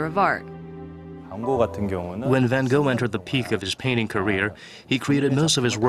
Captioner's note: korean